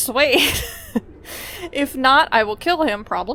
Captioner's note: laughs